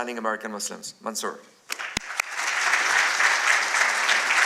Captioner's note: applause